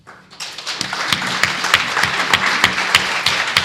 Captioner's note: applause